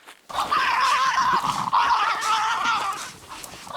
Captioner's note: growling